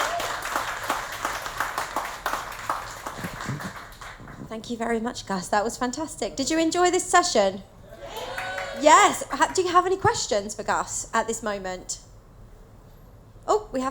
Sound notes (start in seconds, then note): 0.0 applause and cheers; 7.9 audience shout yes